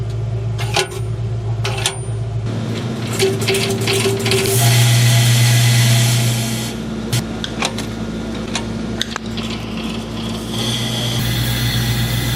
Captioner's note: machine Running